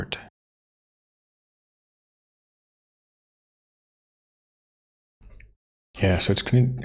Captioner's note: blank Audio